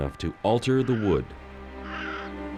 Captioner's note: crow cawing